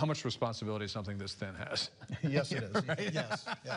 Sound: laughter

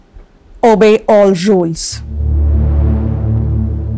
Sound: mouthing

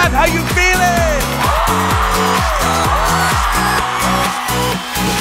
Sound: cheers

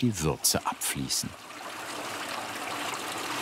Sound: water splashing

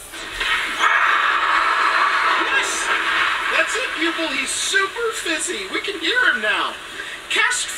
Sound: crash

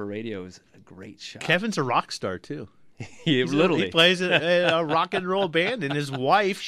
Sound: laughs

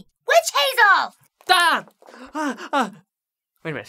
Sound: unnecessary Crying

